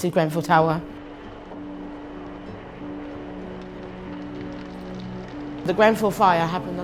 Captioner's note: soft music; fire crackling